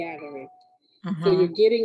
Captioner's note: phone ringing